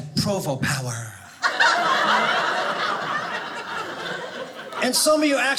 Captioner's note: audience laughing